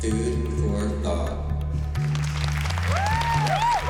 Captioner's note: whooping, applause